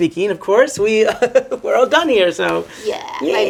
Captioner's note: giggling